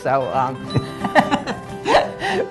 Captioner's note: laughter